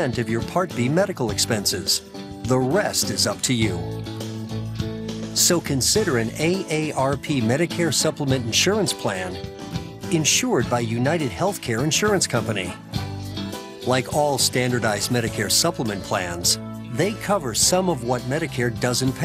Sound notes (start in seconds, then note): none